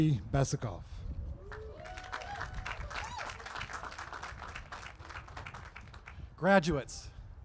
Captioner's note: applause